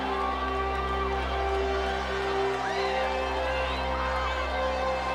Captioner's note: motivational instrumental music; crowd cheering